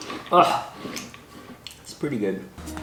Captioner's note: scoffs